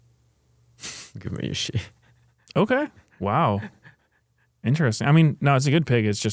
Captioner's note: laughs